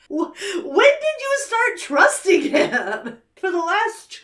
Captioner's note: laughs